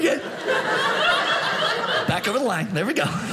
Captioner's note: audience laughing